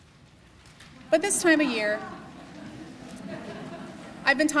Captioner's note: laughter